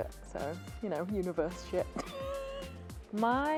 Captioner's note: laughs